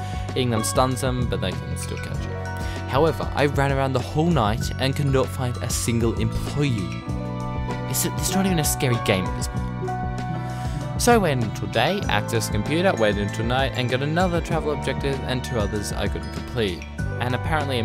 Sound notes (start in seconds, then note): 10.4 sigh